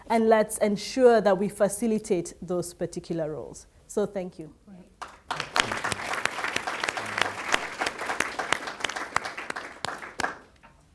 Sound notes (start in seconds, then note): 5.0 audience applauds